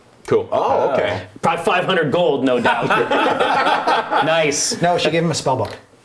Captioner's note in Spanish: risas